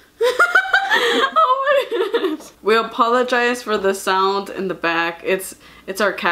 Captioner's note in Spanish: La risa